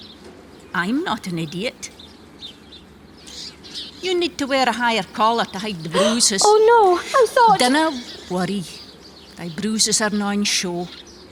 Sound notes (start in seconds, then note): 5.9 gasps